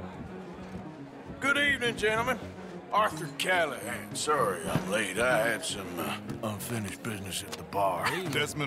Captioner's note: chuckles